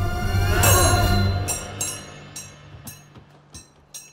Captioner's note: swords clash